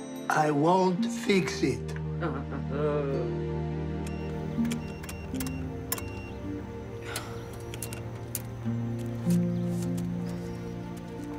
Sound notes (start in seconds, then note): 2.0 scoffs; 7.0 Olive sighs